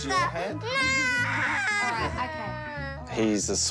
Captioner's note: giggles